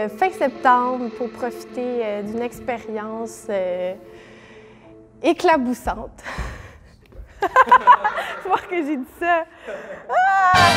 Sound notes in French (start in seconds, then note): 7.2 rires